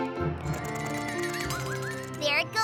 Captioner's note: rattle!